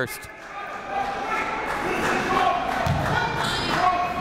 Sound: coaches yelling

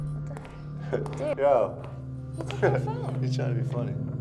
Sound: chuckles

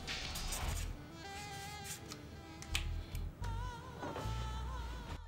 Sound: marker scratching

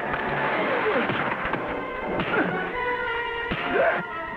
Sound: slapping effect

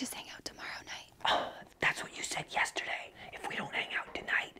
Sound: sighs

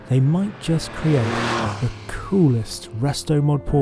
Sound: engine roars

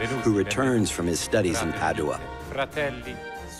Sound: Casanova speaking Italian

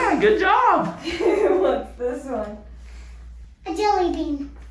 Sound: laughs

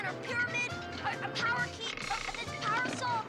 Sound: stutters

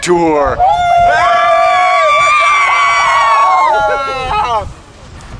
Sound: yelling and cheering

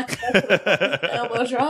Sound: laughs

